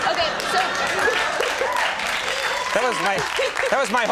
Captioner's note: audience cheering